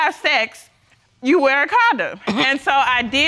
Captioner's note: coughs